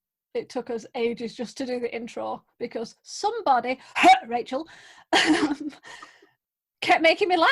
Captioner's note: cough